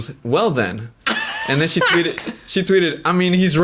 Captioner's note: laughs